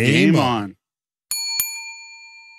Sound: bell dings

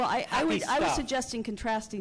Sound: voiceover

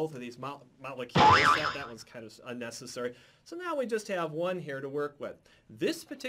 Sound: boing!

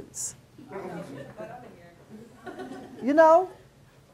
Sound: class giggles

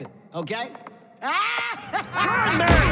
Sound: laugh

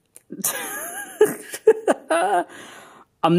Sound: giggling

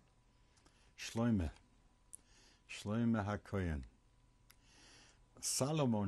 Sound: hebrew

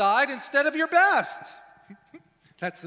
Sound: laughs

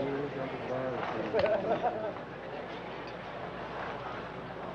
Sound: patients chattering

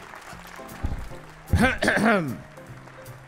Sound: clearing throat

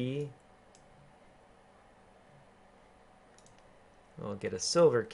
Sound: keyboarding

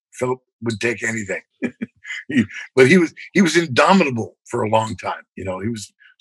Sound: laughter

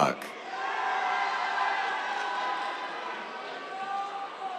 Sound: cheers, applause

